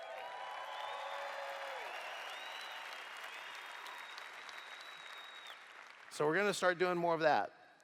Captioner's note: cheers